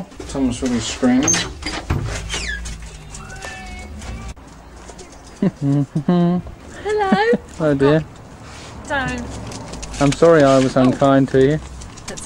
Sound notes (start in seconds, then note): 5.4 excited humming